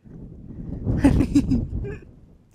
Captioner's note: giggles